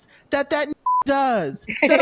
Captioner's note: beep